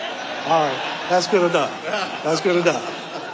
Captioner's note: audience laughing